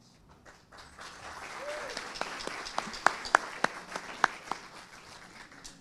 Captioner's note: audience applauding